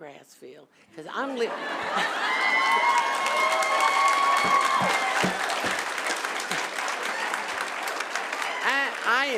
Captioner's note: laughter and applause